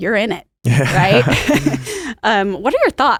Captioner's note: both laugh